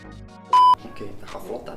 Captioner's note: upbeat music; beeps; speaking in a foreign language